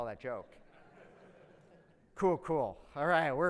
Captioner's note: audience laughs